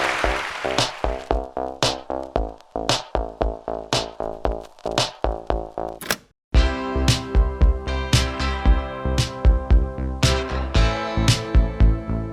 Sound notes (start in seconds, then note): 0.0 audience applause; 6.0 cassette player clicks open